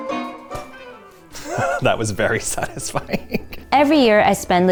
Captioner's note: laughing